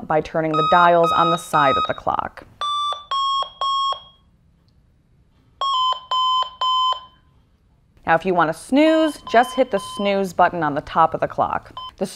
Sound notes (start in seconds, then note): 0.5 alarm clock tones